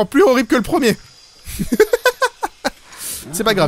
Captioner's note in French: Rire